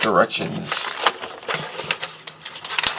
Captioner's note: paper crinkles